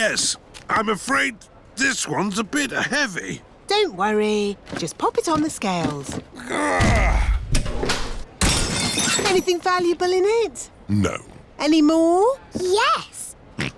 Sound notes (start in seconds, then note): 6.3 grunts; 8.5 crashes